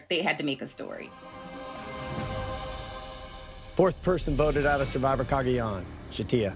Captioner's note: soundbite of tv show, "survivor: cagayan"